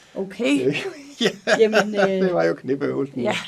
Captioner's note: laughs